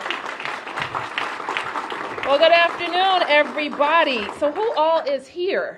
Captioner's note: applause